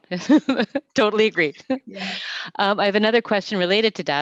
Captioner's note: laughs